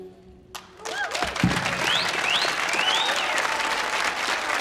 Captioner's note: audience applauding